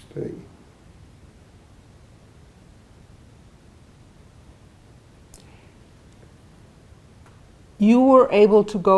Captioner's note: pauses 6 seconds